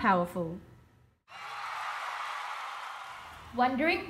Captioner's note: crowd cheers